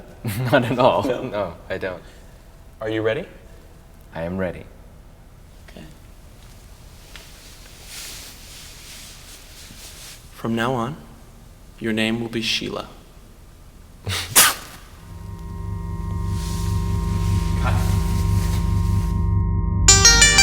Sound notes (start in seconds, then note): 14.0 spits; 19.7 ominous electronic music